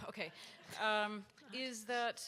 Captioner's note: audience laughs